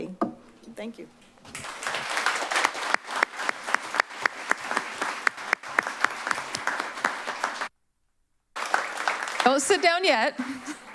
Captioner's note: applause